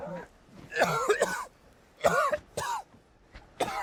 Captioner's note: coughing